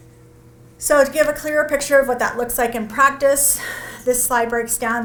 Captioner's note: sighs